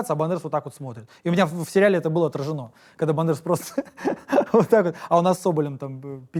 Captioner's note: laughs